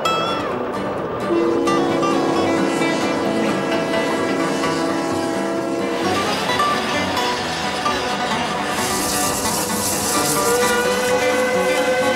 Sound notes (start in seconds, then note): 5.0 whistle blowing